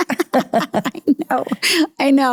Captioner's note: both laugh